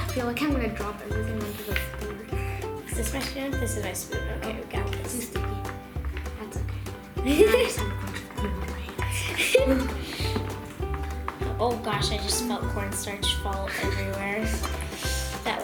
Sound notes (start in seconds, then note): 7.2 laughter; 9.6 laughter